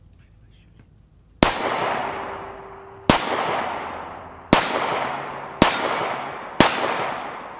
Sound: gun fires

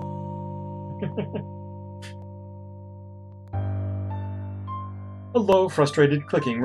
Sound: chuckles

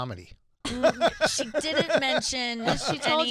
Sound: laughing

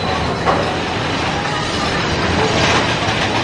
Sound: creaking

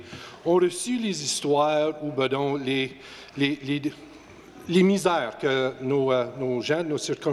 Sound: speaking French

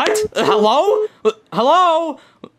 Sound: dial tone beeping

